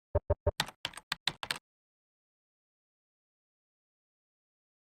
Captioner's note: keyboard clicking